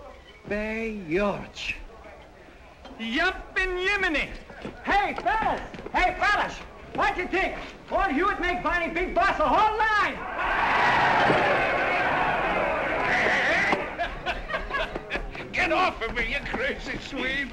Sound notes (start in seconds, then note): 10.1 cheering